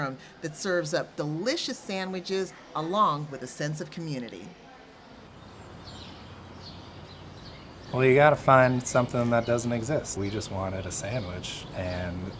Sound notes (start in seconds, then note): 5.2 traffic droning; 5.3 birds chirping